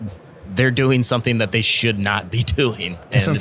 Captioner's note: laughs